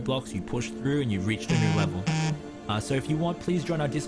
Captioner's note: phone buzzes